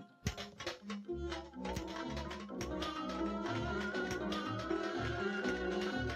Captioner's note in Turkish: takir tukur sesler